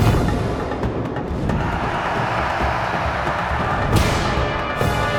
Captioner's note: cheering